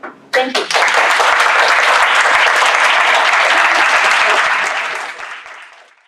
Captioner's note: applause